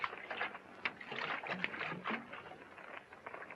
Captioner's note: water sloshing